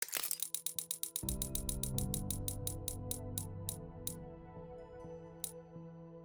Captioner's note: coins dropping; gentle music